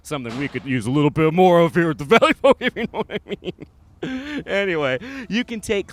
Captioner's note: laughs